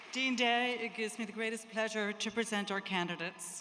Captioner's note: applause